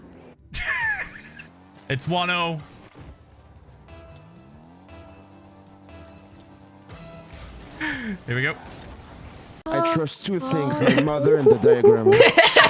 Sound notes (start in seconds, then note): 0.3 laughs; 3.8 game timer counts down